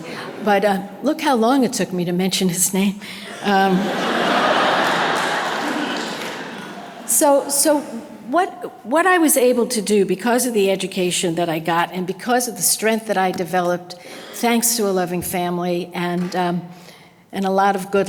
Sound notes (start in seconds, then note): 3.6 audience laughter